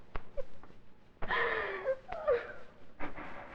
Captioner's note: Rose sobbing